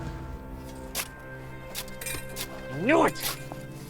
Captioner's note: digging